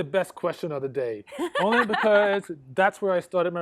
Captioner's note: laughs